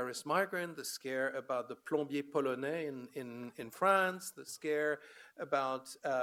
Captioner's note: foreign language